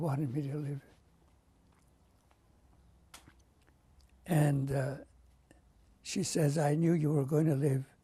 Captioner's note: pauses for 3 seconds